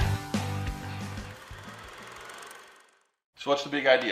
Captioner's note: film reel clicking